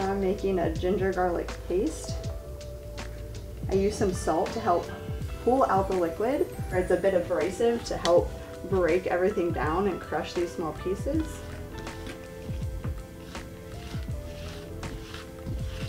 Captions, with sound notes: So now I'm making a ginger garlic paste. I use some salt to help pull out the liquid, or it's a bit abrasive to help break everything down and crush these small pieces. (knife scraping)